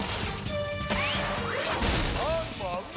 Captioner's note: explosion